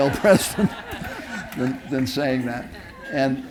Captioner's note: audience laughing